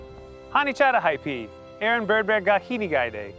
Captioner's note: speaking Ho-Chunk